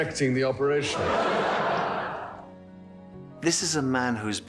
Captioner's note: audience laughs